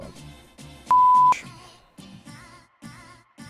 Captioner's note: beep